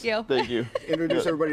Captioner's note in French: laughter